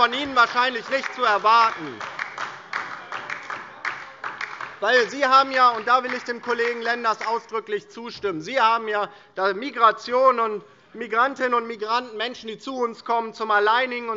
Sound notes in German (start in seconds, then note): 2.5 Beifall DIE LINKE - Zurufe AfD